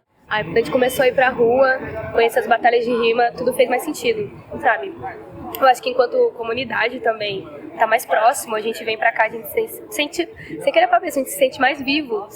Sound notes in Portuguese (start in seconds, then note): 1.0 barulho da plateia se dispersando ao fundo; 7.3 barulho da plateia se dispersando ao fundo; 11.5 barulho da plateia se dispersando ao fundo